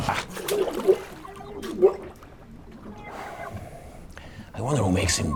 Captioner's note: water bubbling